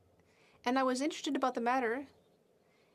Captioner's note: speaking French